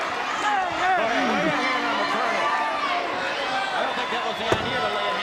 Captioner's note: audience drowns out commentators